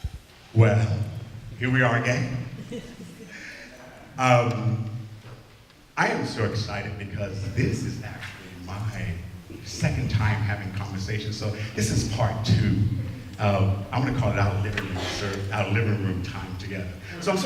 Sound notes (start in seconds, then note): 2.5 laughter